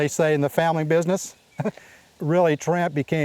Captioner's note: chuckle